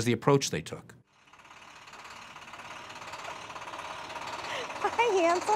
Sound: vehicle idling

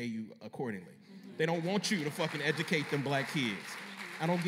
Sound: applause

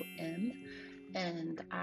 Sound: chime rings

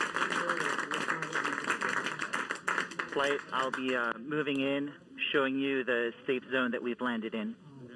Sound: applauding

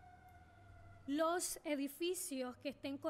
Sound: speaking spanish

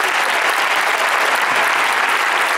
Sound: applause

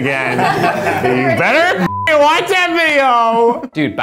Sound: beep

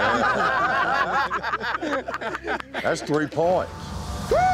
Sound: everyone chuckling

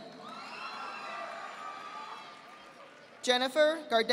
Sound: audience applauding

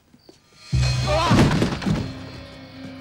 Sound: <i> cries out</i>

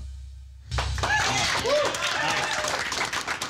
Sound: applause

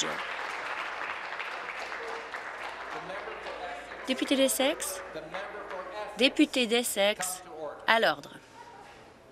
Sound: applause

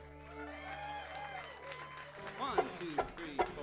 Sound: audience cheering

